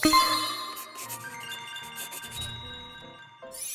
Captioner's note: shimmer then ping sound effect; scribling; ping